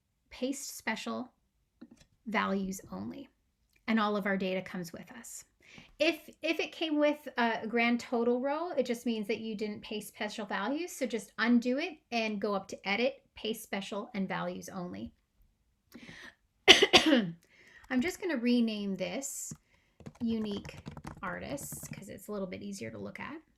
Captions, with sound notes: "paste special," "values only." And all of our data comes with us. If it came with a grand total row, it just means that you didn't paste special values, so just undo it and go up to "edit," "paste special," and "values only." [Coughing.] I'm just going to rename this "Unique Artists," because it's a little bit easier to look at,